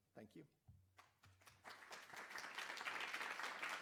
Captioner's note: applause